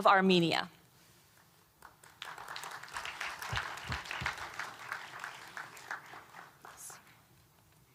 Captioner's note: applause